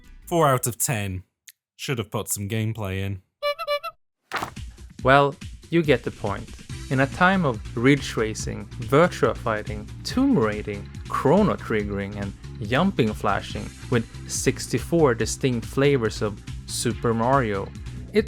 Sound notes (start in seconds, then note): 3.1 clown horn noise; 4.3 magazine slapping noise